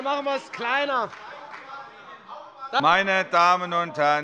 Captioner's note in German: Fortgesetzte Zurufe von dem BÜNDNIS 90/DIE GRÜNEN